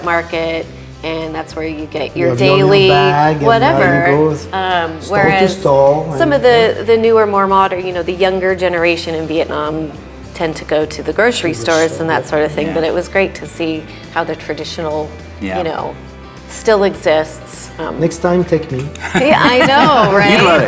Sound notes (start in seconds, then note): 18.9 laughter